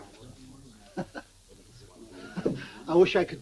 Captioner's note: Tim chuckles